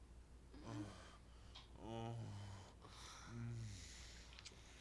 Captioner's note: man moaning